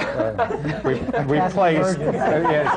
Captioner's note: laughter